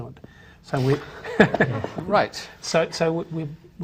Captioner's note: laughs